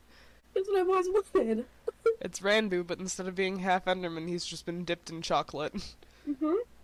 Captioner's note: laughter